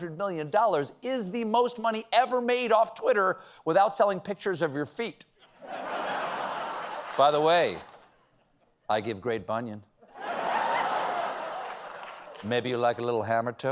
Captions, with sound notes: $800 MILLION IS THE MOST MONEY EVER MADE OFF TWITTER WITHOUT SELLING PICTURES OF YOUR FEET. ( LAUGHTER ) BY THE WAY, I GIVE GREAT BUNION. MAYBE YOU LIKE A LITTLE HAMMERTOE?